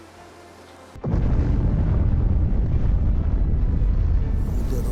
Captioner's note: bomb exploding